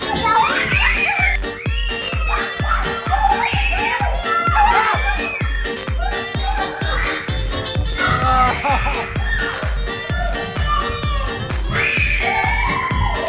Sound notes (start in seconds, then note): 0.3 screaming; 3.1 upbeat music; 7.9 groans; 10.1 upbeat music